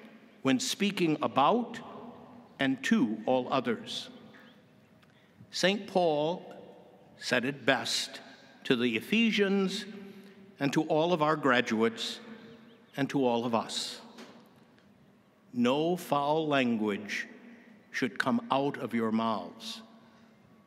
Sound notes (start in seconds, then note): none